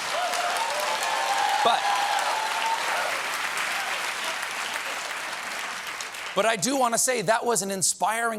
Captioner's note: cheers and applause